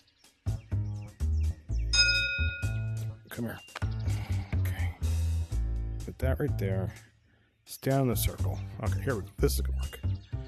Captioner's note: ding